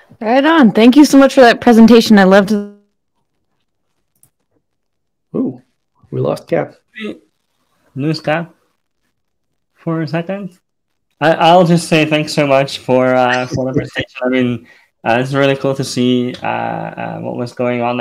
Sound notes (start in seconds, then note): 13.2 speaker drowned out by laughing